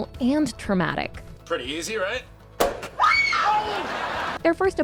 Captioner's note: Lily screams